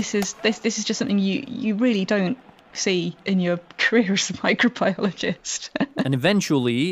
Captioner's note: laughs